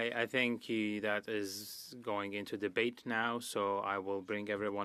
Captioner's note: speaking French